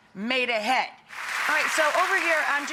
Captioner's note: audience clapping